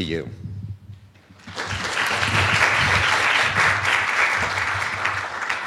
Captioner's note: applause